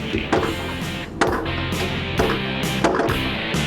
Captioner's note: shots